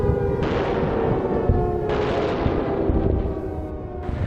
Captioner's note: naval guns firing